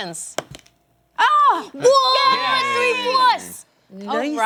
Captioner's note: cheering